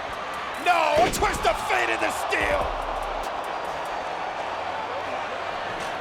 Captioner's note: crowd booing